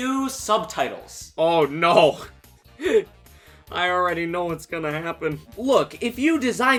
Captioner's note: laughing